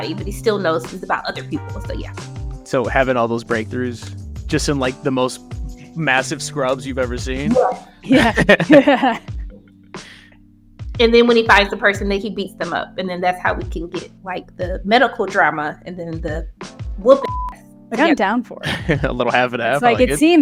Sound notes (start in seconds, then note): 7.5 laughs; 17.1 beep